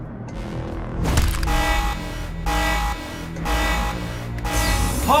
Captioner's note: alarm sounds